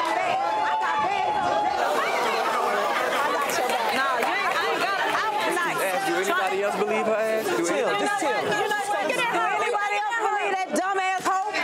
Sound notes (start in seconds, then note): 0.0 adience screaming and applauding; 5.0 audience hollering